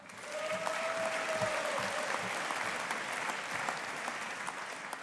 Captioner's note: audience applauding